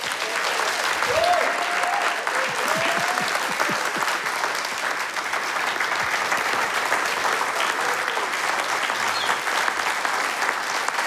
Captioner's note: applause